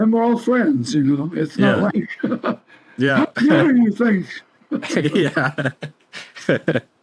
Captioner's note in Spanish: risas